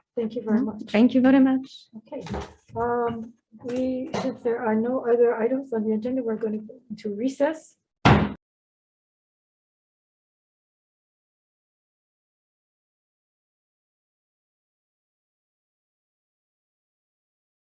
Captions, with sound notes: Thank you very much. - Thank you very much. - Okay, if there are no other items on the agenda we're gonna go to recess. (gavel banging)